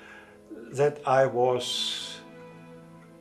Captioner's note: speaking in German